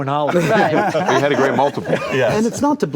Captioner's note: group laughing